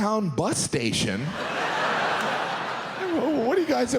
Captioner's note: audience laughs